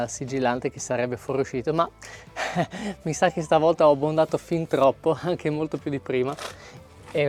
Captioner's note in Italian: risate